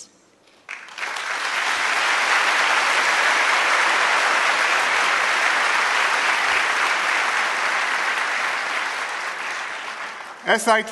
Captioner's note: applause